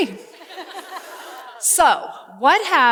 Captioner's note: laughter